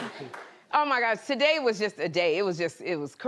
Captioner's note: cheers and applause